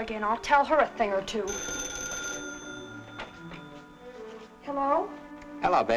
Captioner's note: phone ringing